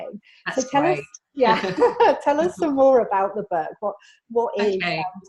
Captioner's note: laughs